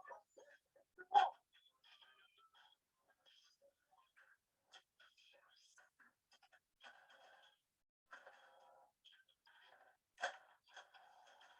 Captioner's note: little to no sound